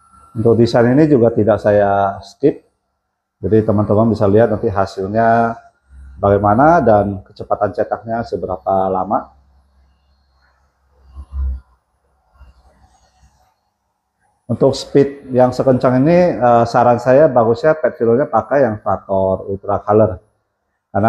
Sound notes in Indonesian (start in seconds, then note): 10.0 printing